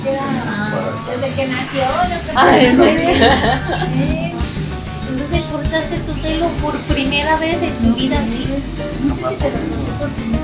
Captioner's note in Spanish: risas